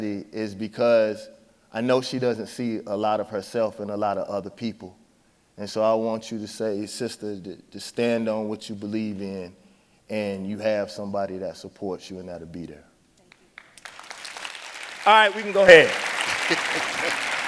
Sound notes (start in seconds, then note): 13.4 audience applauding